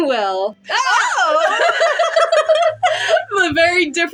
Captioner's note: both Laugh